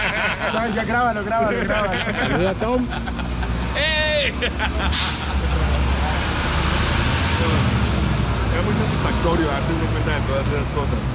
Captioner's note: laughing